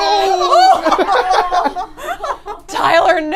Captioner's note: screams; group laughs